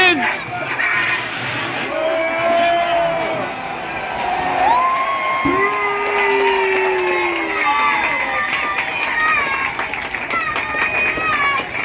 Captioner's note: A loud mix of shouting, cheering, booing, applause and chants